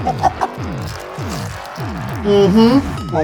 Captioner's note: laughs